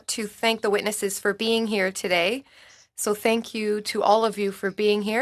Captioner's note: speaking French